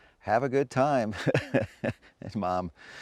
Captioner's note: chuckling